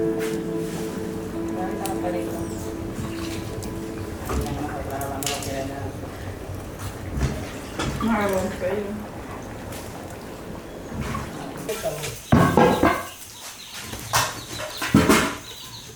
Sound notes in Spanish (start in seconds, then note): 7.3 crepitar del fuego